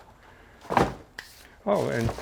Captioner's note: box thuds